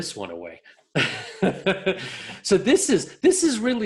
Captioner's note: laughs